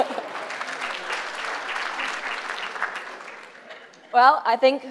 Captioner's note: applause